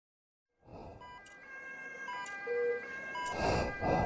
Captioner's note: sound of ambulances swell; heart-monitor beeps